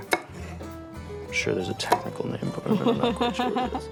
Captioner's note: laughs